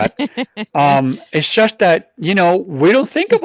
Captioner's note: laughs